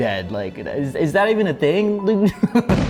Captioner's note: laughs